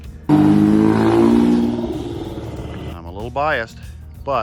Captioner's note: car engine roars